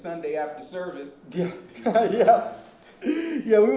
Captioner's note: laughing